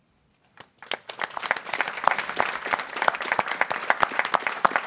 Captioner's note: people clapping